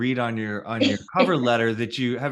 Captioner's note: chuckles